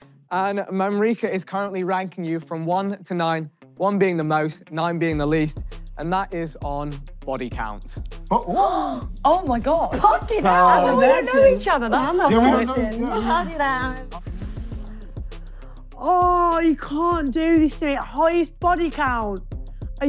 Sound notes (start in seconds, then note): 8.3 gasping